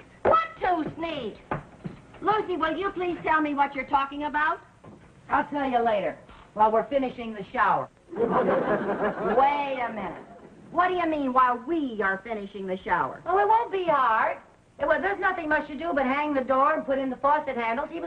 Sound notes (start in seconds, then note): 8.1 audience laughing